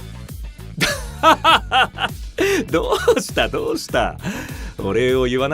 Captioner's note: laughs